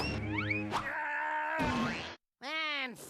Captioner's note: yelling